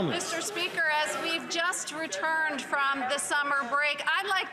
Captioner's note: some Applause